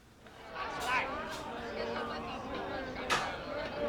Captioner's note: chattering, Singing